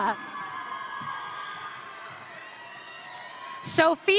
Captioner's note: audience cheering